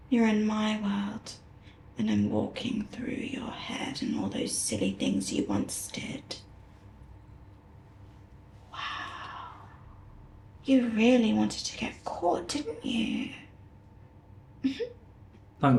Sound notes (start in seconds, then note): 8.6 whispered; 14.6 giggles